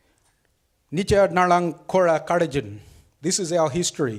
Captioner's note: speaks foreign language